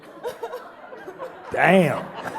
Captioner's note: laughing